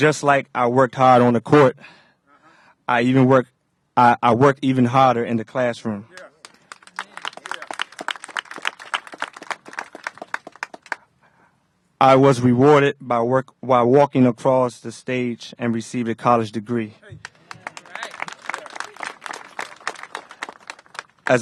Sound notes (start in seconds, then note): 8.8 applause